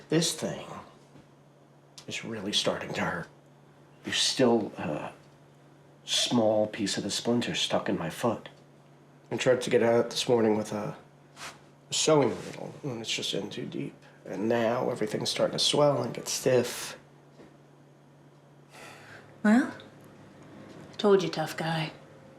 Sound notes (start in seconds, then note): none